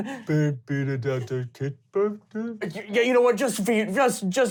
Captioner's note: mumbling on as a troll